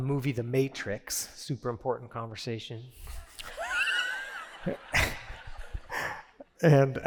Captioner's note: laughter